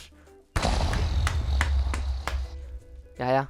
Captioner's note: Minecraft explosion sound